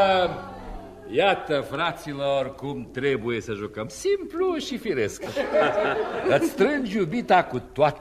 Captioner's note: laughter